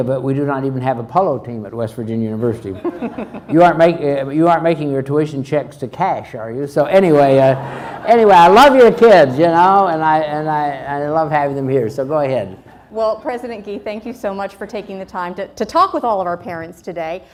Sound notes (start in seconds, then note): 2.7 all laugh; 7.1 crowd laughs